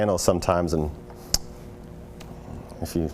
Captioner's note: tongue click